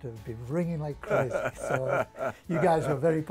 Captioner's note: laughs